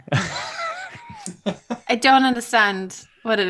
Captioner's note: laughter